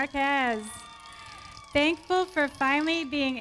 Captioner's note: audience cheering